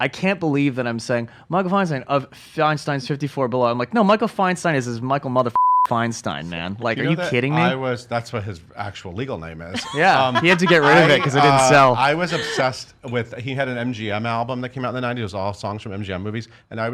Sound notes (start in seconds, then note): 9.7 laughs